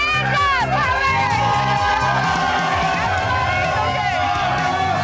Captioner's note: crowd cheering